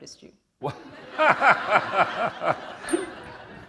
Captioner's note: laughter